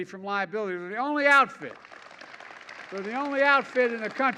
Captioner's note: applause